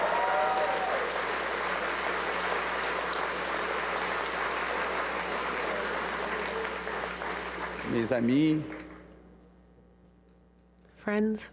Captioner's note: cheers and applause